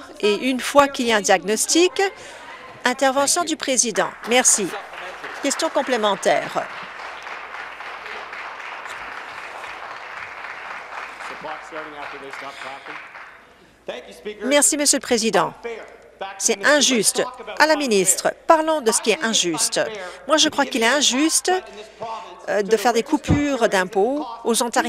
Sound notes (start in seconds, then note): 6.6 applause